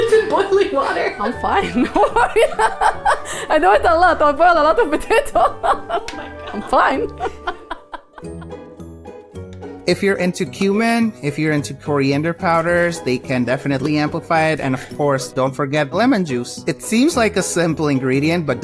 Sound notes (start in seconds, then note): 1.8 both laugh; 8.4 playful music